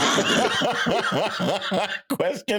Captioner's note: laughing